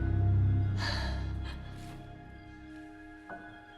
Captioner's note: crying